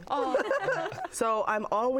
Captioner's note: all laugh